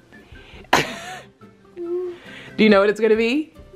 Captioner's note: laughs